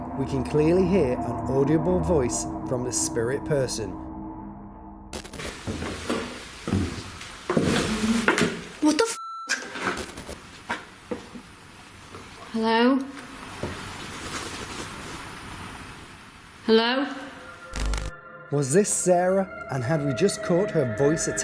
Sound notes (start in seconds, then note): 7.7 woman vocalising; 15.2 scratching